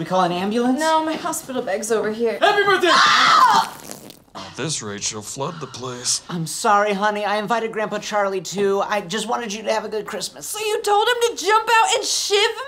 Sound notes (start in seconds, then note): 2.8 all scream; 3.4 more water dripping